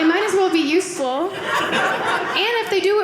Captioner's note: audience laughing